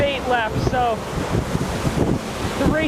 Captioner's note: wind blowing